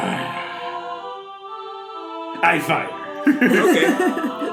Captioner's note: growls